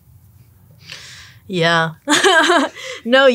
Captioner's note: laughs